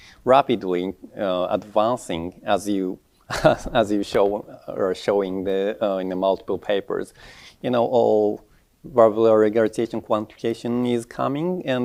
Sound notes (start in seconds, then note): 3.2 chuckles